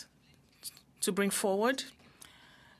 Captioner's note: speaking in French